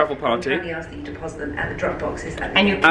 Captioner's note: PA Announcement